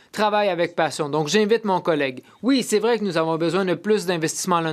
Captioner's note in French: voix de l'interprète